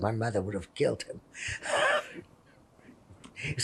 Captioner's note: laughing